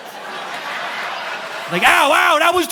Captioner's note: audience laughing